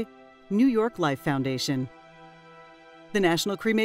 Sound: male Voice

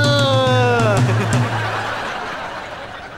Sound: chuckles

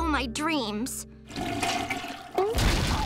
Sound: toilet flushing

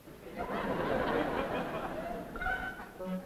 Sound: audience laughs

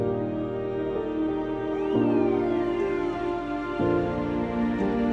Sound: police siren

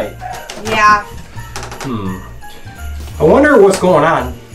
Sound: wood creaking

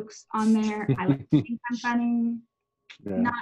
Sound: laughing

